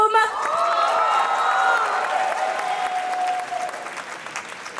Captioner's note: cheering; applause